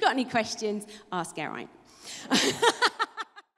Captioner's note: laughs